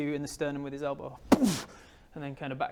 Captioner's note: boof!